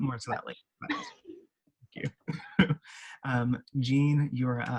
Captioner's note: both chattering